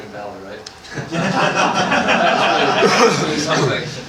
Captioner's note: laughter